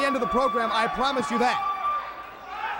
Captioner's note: crowd chatter